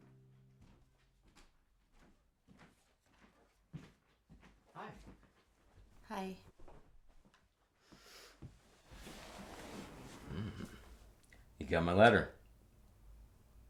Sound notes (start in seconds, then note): 2.7 footsteps